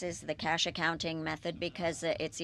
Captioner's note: speaking French